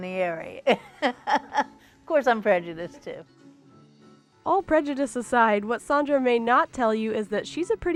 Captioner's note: laughing